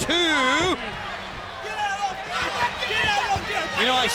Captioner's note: people chattering